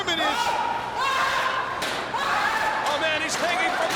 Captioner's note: screaming